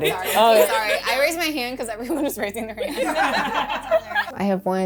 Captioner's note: laughing